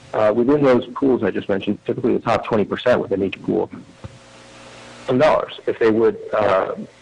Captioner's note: audio cutting in/out